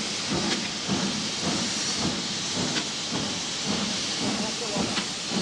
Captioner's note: train passes